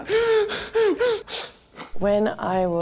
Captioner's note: crying